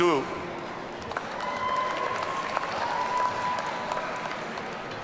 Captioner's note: audience cheering